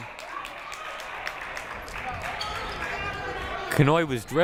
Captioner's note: crowd applauding